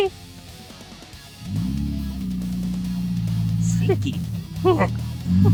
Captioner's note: engine revving; laughing